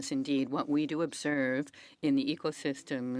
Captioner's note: speaking French